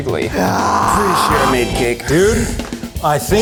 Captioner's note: groans